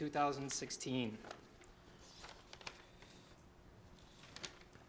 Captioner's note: paper flapping